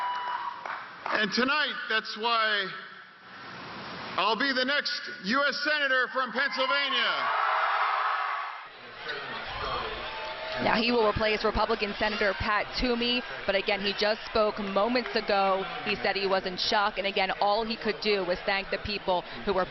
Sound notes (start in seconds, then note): 3.5 cheers and applause; 12.1 cheers and applause